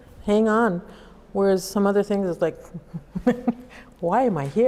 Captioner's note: laughs